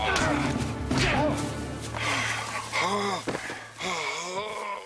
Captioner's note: groaning